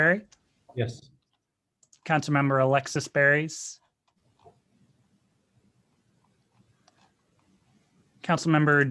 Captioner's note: silence